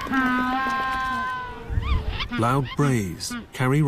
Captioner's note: a penguin brays loudly